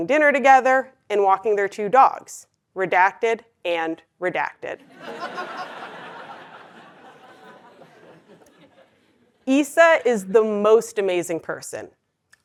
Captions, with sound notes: cooking dinner together and walking their two dogs, redacted and redacted. >> [LAUGH] >> Issa is the most amazing person.